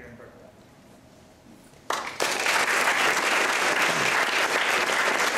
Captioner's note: applause